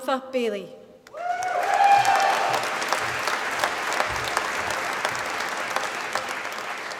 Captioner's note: applause